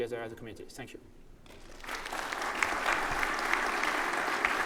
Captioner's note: audience applauding